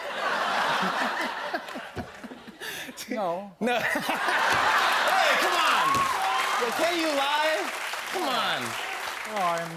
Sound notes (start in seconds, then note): 0.0 laughter; 3.7 laughter